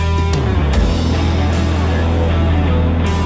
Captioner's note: shop fan blowing in background